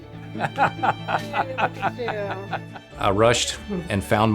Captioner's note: laughter